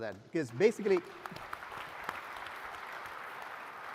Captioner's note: applause